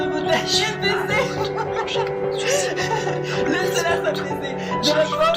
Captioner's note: laughs loudly